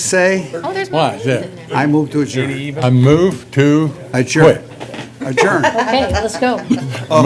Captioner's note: laughter